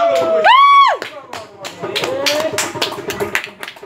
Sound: shouting and clapping

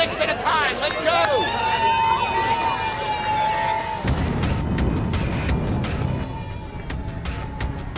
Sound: cheers

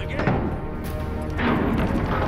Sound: heavy doors opening

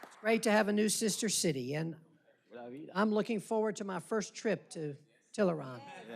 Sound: applause

